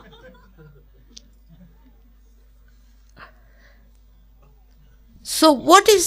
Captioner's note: laughter